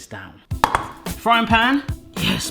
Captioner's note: clunking